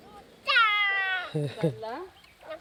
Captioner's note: child yelling; lady speaking foreign language